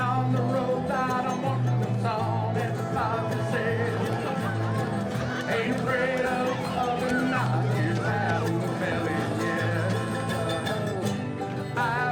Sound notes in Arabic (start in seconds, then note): 1.6 عزف الفرقة الموسيقية; 3.0 ضجيج الحشود